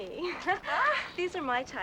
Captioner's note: ladies laughing